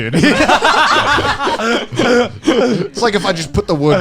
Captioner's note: laughing